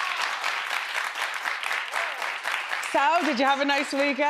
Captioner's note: crowd applauding